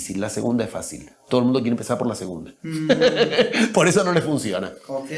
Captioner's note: risas